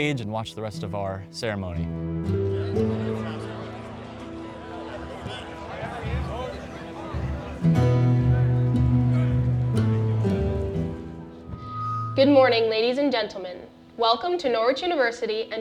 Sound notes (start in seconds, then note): 2.2 gentle music; 2.2 people chattering; 7.8 gentle music continues